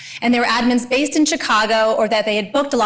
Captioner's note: none